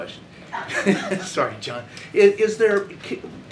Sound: laughter

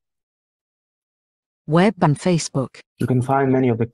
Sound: voice-over

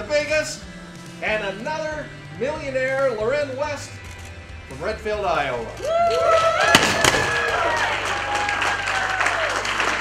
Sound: cheering, applause and confetti canons going off

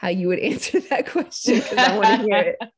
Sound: laughing

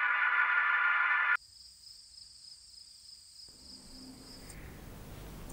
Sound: crickets chirping

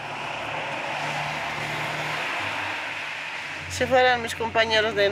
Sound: cars whooshing; speaking in foreign language

